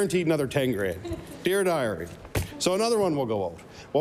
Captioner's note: laughter